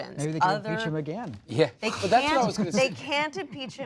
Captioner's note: laughter